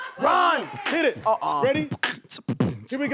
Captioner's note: beat boxing